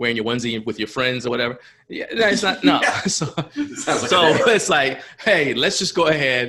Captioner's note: laughs